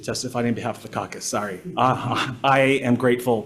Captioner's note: members chuckling; chuckles